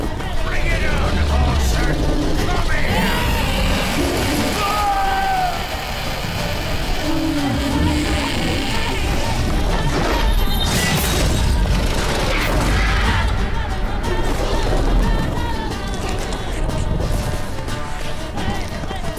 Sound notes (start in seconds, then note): 2.7 screams in terror; 3.2 screeching roar; 7.5 screech; 10.0 magical ringing; 12.4 loud thud